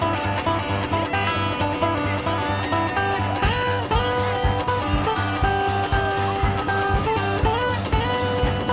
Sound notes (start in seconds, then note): 0.0 twangy guitar music; 3.8 cheering